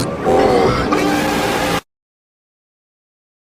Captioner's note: screams